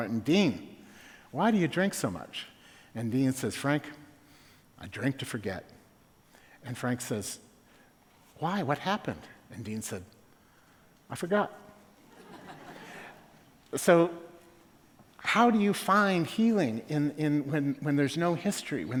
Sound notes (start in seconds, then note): 12.0 laughter